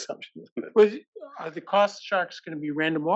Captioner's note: laugh